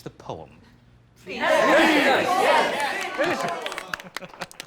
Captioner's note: crowd